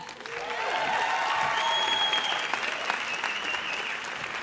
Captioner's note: audience cheers